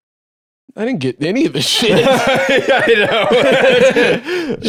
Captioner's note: laughing